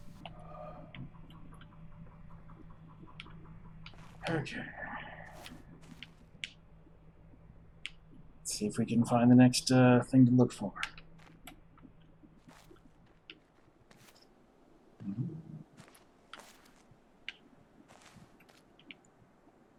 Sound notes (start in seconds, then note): 4.1 sighing; 15.0 humming